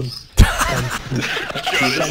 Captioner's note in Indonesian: Ketawa